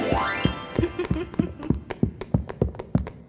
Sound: chuckling

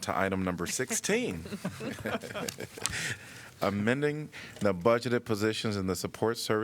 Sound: laughter

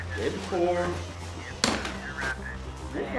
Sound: loud sound of bar hitting plate

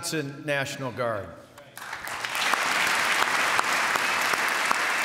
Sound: applause

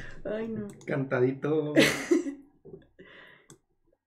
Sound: in sing-song voice

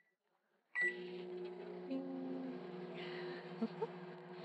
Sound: imitating hum of microwave

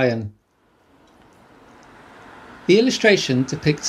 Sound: the noise of a busy town street fades in

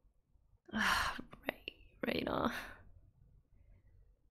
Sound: sighs

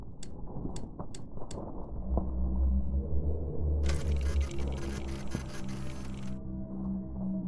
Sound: machine whirring

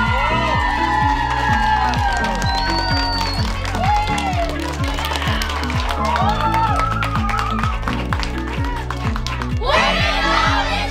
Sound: cheers and applause

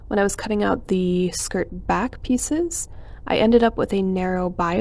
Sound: none

